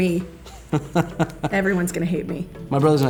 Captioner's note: laughter